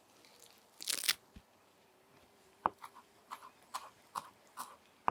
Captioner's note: leaves crunching